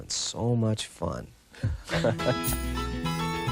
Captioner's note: laughter